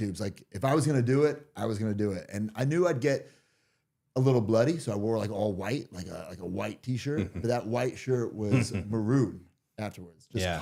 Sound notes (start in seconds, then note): 7.1 chuckles